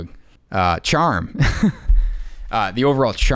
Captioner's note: laughing